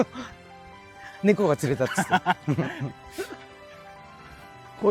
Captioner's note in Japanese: 笑い